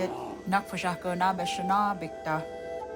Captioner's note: bear grunts